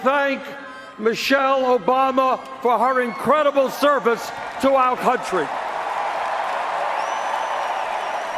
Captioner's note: cheers and Applause